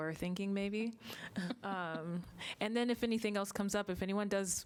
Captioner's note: laughter